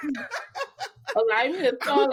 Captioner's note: laughing